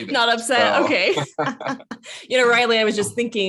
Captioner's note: both laugh